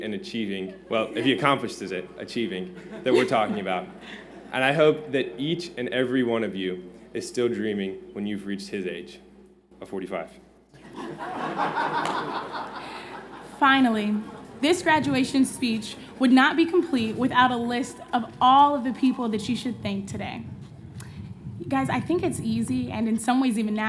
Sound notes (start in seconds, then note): 10.7 laughter